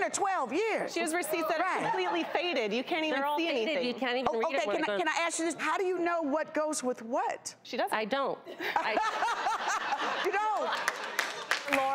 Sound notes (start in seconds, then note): 8.6 laughs